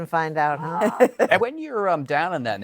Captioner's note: laughter